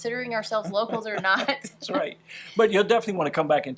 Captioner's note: laughs